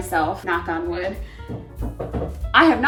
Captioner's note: knocking on wooden cabinet